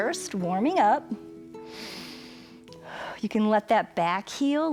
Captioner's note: inhales and exhales